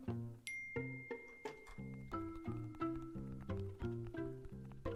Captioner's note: phone notification sound